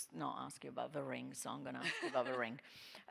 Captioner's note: laughing